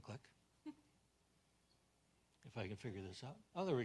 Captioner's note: assistant chuckles